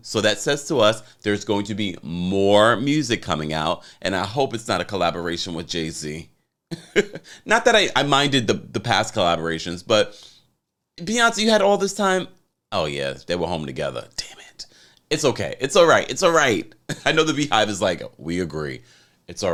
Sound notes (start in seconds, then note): 6.7 laughing